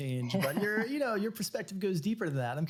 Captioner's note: laughs